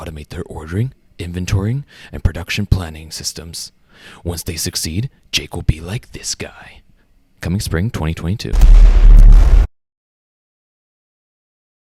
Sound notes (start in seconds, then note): 8.5 another explosion sound